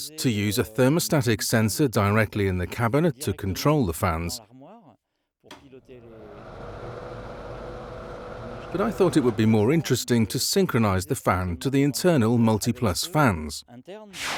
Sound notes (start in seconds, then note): 5.5 fans buzzing